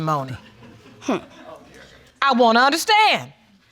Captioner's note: faint laughter